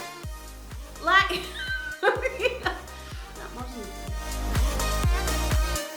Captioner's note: giggle